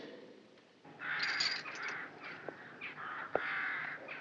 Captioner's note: birds squawking